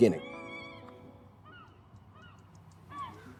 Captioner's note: birds